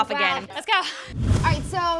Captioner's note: air whooshing